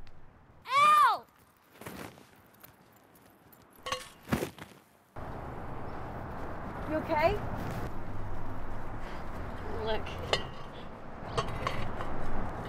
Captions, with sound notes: L! (metal clanking) (person clattering) - You okay? - Look. (metal scraping)